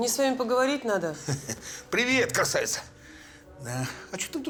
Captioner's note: chuckles